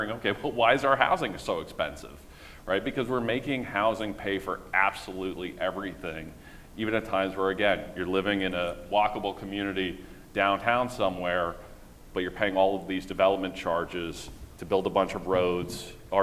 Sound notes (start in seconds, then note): none